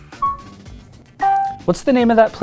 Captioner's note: pin beeping